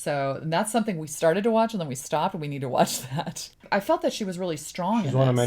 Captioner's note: laughs